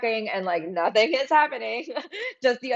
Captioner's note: laughs